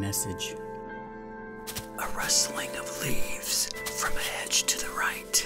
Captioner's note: A rustling of leaves from a hedge to the right